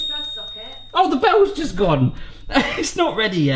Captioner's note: oven bell dinging